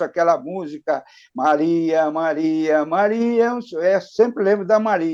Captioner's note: hums